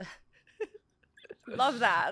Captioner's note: laughs